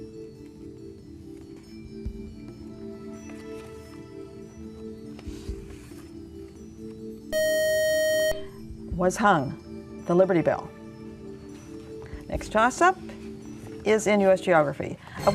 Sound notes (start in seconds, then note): 7.3 beeping